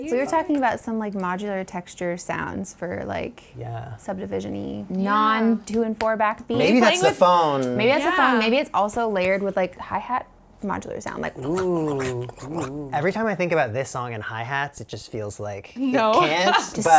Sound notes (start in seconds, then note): 11.3 warpy scrapey mouth sounds